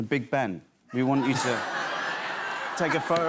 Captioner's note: laughter